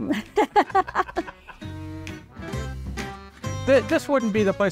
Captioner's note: laugh